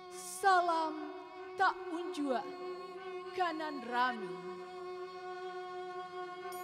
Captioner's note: lady speaking in Indonesian